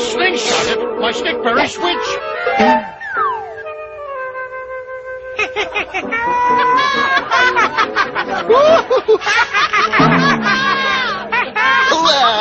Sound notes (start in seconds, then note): 8.0 laughing